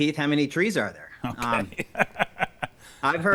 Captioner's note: laughs